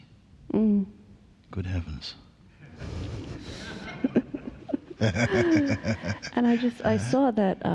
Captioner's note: laughter